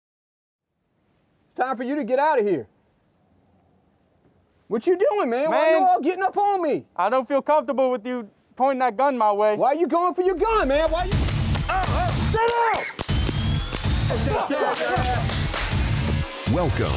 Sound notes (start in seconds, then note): 10.4 pulsing music; 12.8 gunshots